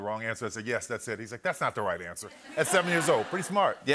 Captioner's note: laughter